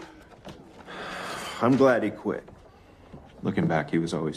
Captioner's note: sighs